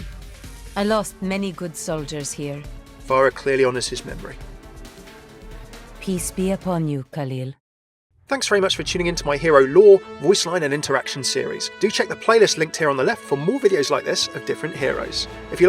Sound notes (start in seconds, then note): 0.3 voiceover